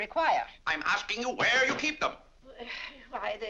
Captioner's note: banging cane; sighs